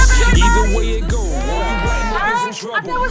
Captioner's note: crowd cheering